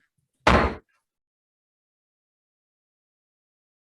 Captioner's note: gavel pounds